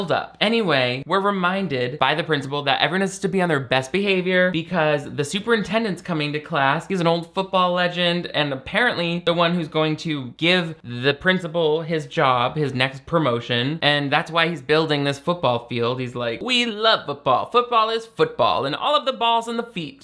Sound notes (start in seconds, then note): none